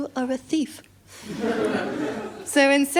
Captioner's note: laughter